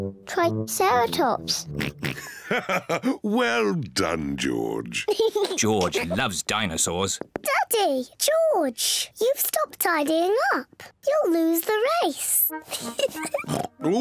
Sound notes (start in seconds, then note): 1.7 oinks; 1.8 chuckles; 12.6 giggles